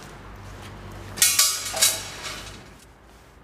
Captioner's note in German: Metallisches Klirren